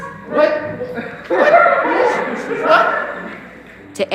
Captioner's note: laughter